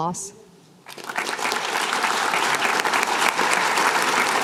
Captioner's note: applause